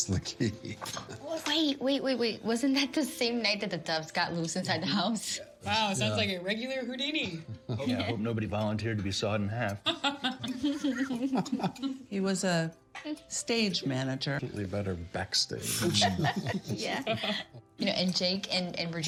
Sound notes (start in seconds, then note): 9.9 laughing; 15.7 chuckling